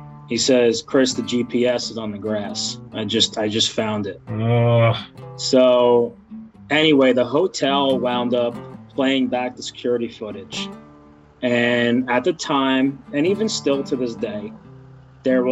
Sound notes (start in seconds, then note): 4.3 groans